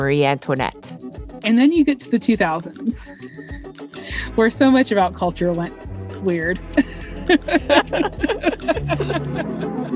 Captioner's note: laughs